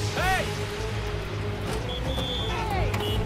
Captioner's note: whistle blows